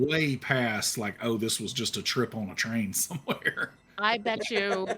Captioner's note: chuckles